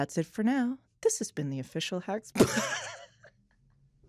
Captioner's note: laughing